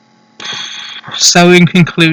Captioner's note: breathy exhale